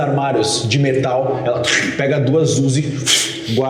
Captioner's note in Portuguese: Pfst